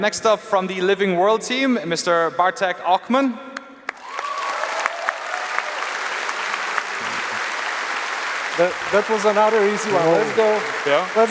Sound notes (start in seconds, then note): 3.8 applause